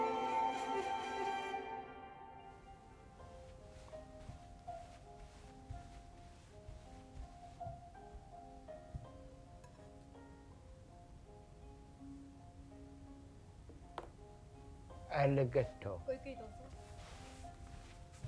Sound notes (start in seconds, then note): 1.1 music fades; 15.8 replies in japanese